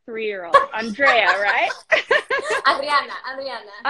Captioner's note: both laugh